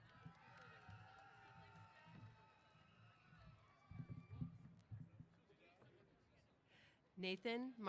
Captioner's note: cheers